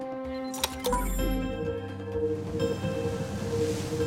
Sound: electronic humming

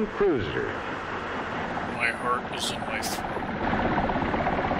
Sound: deadpan

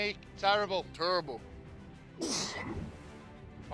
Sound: grungrunts

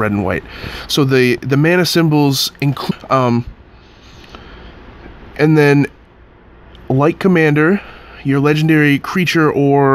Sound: jump cut because of static

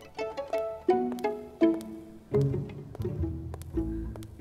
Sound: feet tapping

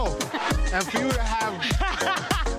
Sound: laughter

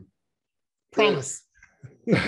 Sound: laughs

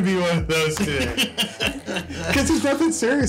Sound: still chuckling

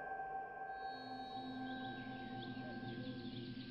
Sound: birds chirping

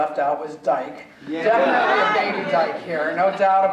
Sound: audience laughing

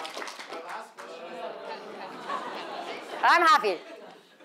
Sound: audience murmuring

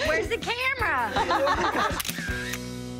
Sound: camera shutter clicks

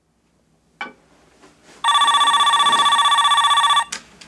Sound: phone ringing

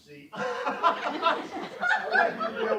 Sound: laughter

